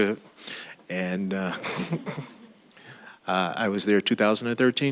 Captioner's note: laughing